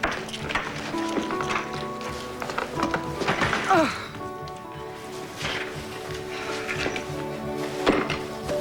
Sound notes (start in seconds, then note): 3.6 groan